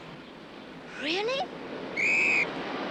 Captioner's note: whistle blows